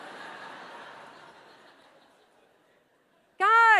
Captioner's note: laughter